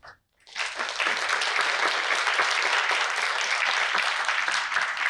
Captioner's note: audience applauding